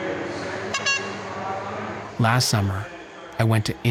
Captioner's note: mascot horn honks